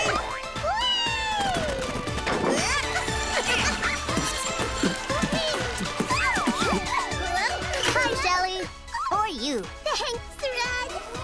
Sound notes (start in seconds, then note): 2.5 laughing